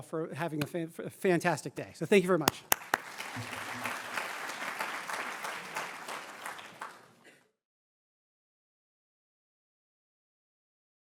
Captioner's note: applause